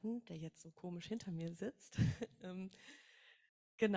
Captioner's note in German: lacht